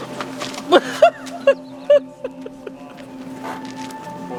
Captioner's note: laughing